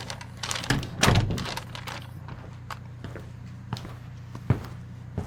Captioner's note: door bangs shut